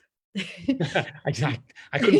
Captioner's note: both laugh